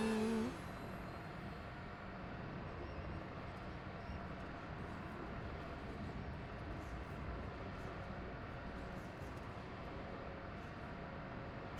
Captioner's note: engine revving